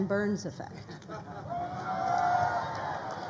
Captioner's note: crowd cheering